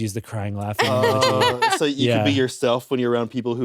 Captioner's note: laughs